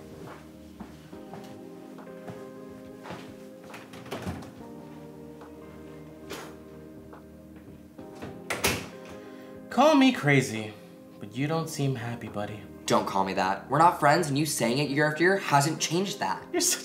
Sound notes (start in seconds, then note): 0.3 gentle instrumental music; 3.8 door clicking open; 8.2 door clicking shut